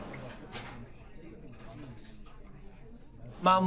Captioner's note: voices in the background